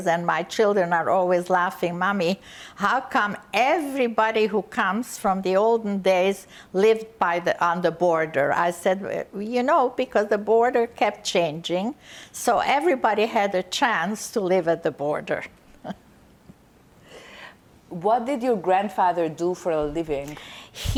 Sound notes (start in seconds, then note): 15.8 laughing